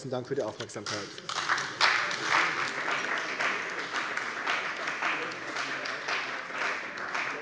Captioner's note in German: Beifall bei der CDU und BÜNDNIS 90/DIE GRÜNEN